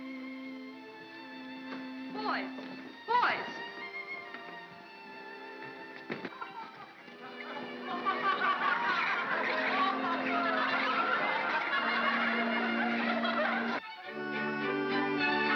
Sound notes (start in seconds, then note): 0.0 soft music; 4.6 soft music; 7.8 laughter; 7.9 soft music; 13.7 upbeat whimsical music